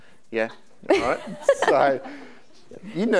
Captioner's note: laughing